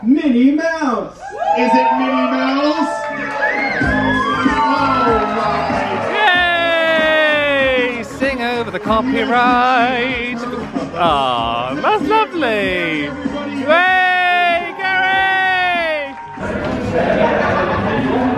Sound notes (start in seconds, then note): 1.2 guests cheer; 4.0 guests cheering; 4.0 upbeat music